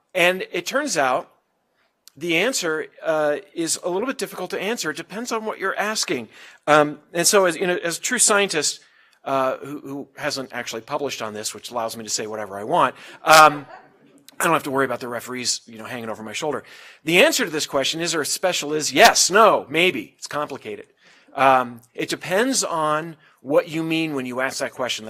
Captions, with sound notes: And it turns out, the answer is a little bit difficult to answer, it depends on what you're asking. And so as a true scientist who hasn't actually published on this, which allows me to say whatever I want. >> [LAUGH] >> I don't have to worry about the referees hanging over my shoulder. The answer to this question is Earth special is yes, no, maybe, it's complicated. It depends on what you mean when you ask that question.